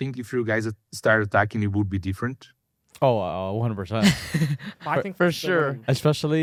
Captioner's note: laughs